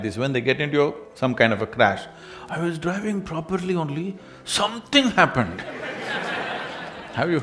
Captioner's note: laughter